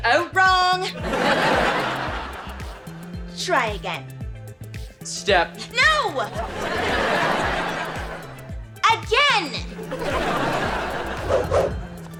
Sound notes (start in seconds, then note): 0.9 audience laughter; 6.2 audience laughter